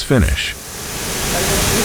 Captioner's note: engine revving